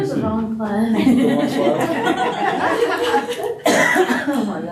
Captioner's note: laughter